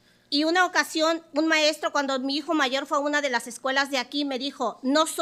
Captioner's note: speaking Spanish